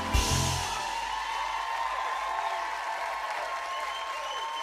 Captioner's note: cheers and applause continue